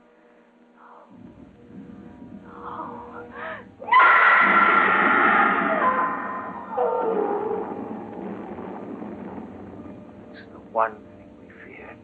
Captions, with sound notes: No, no. [screaming] No! [explosions booming] It's the one thing we feared...